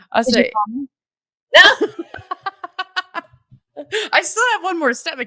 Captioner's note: laughing